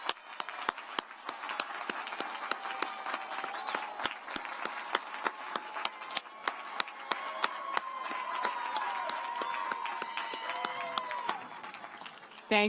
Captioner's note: cheers and applause